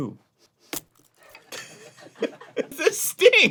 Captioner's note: arin, laughs through the pain